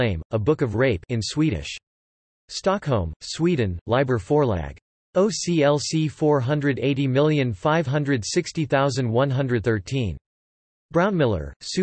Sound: in Swedish

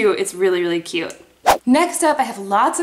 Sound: whooshing

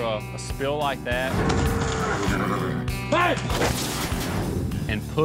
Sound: mooing, horse whinnies

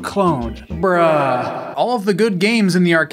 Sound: incredibly intense reverb

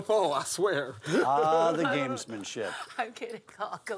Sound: laugh

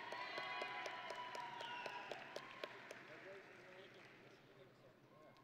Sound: audience and graduates cheering

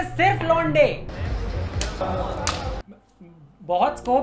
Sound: smacking ensues

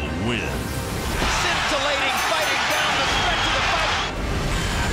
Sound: bell rings

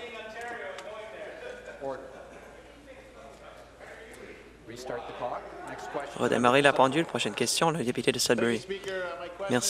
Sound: conversation din

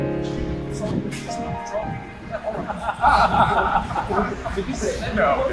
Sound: peaceful music; crowd chattering; people laughing

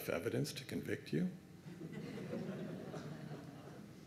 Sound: laughter

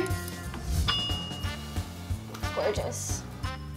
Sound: timer dings; ding sound

